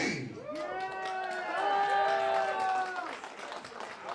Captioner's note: applause